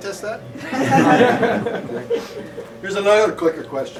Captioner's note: laughter